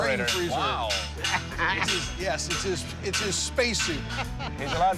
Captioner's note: laughter